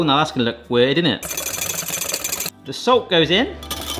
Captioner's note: whisk whirring; whisk whirring